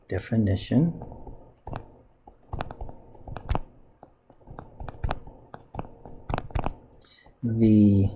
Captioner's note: writing Sounds